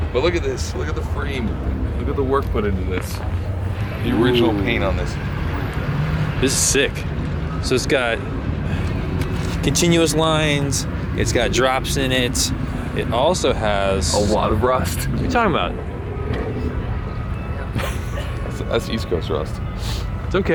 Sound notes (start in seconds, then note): 14.9 laughing; 17.6 laughing